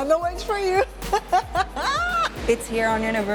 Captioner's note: laughs